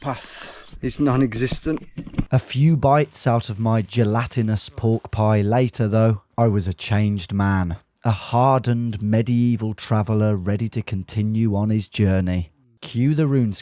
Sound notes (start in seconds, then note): none